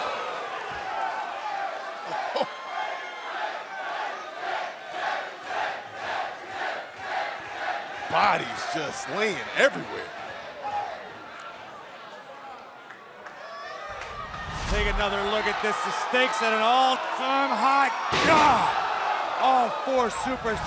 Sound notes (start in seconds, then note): 2.0 cheers; 7.5 fans chanting